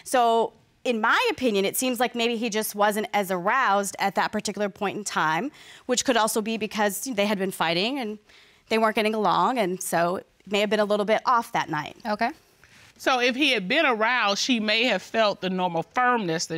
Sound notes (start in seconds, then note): none